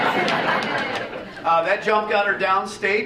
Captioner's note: audience laughing